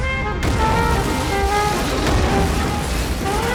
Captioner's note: car crashing